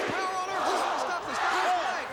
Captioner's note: crowd cheering